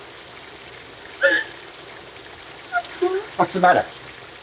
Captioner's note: Sadie gasps